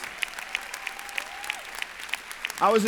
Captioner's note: applause